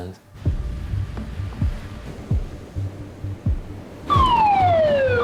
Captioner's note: soft ominous music; waves crashing; alarm wailing